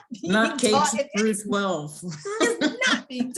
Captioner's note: laughs; laughs